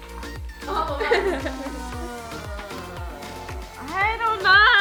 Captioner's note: laughs